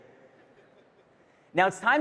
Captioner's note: attendees chuckling